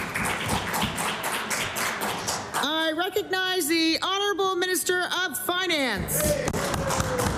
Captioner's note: cheering & Applause